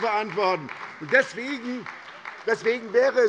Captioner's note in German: Beifall bei der SPD